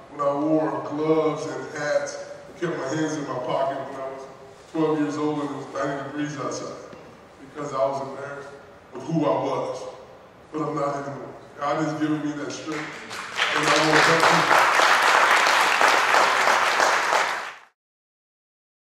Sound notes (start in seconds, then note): 12.7 audience applauding drowns out speaker